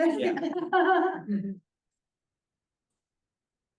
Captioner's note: laughs